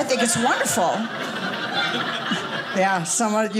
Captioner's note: audience laughing